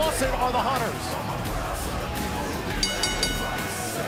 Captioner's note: bell ringing